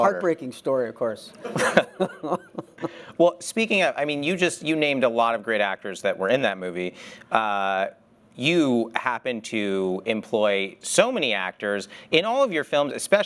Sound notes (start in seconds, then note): 1.4 laughs